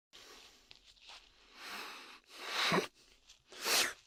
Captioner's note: whimpers